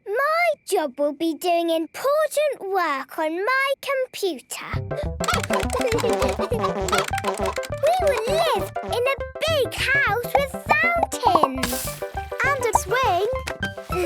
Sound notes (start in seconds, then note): 5.2 keyboard tapping; 5.2 computer game chickens clucking